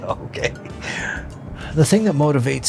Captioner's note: laughs